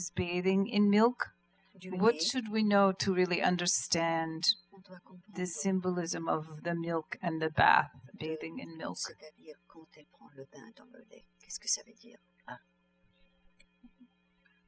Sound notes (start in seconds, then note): 9.0 speaking french